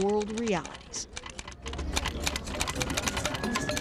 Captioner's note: clack of typewriter